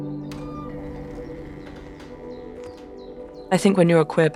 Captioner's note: phone clacking; birds singing; door squeaking